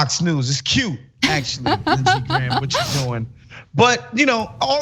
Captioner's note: laugh